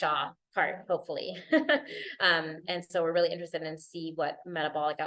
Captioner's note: laughter